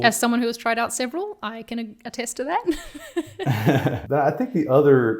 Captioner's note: chuckling